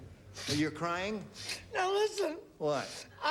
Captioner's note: sniffling